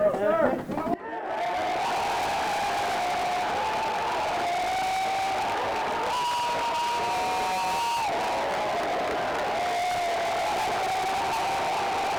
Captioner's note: cheering